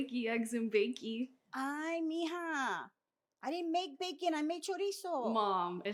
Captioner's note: Spanish